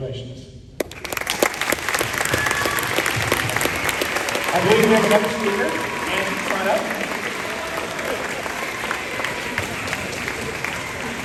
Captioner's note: applause